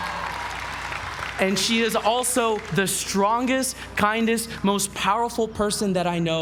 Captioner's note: applause